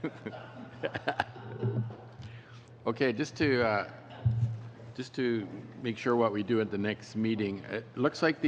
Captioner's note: laughter